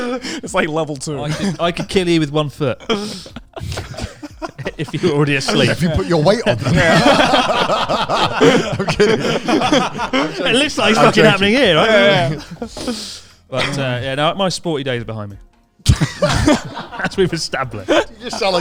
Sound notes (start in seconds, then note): 0.0 laughing quickly; 7.2 all laughing loudly